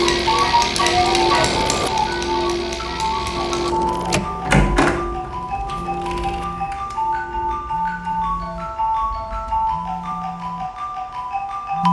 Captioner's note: phone ringing